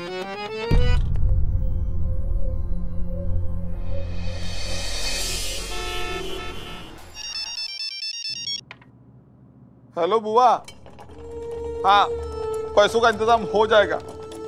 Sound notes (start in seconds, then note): 4.1 cymbal crashing; 5.0 cars honking; 7.1 phone ringing